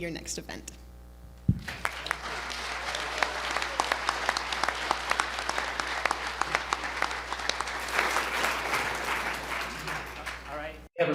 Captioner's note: applause